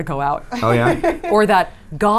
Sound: laughs

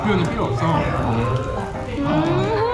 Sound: sighs

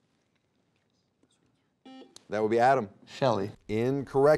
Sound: buzzer beeping

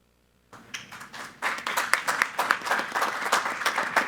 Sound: applause

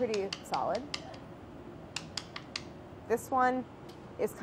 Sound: tapping

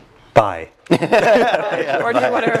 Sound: laugh

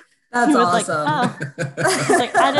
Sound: all laugh

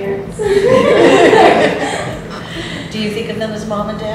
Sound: group laughs

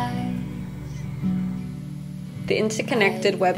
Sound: TV sound

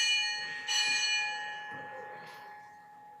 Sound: bell rings

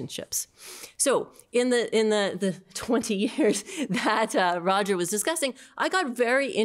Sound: laughter

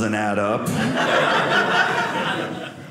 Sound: audience laughing

